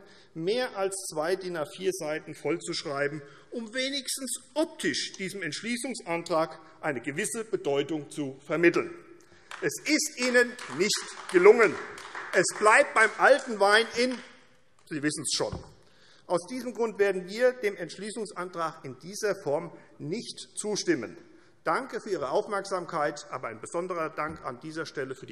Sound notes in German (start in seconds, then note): 10.2 Beifall AfD